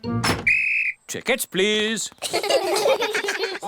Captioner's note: blows whistle; all laugh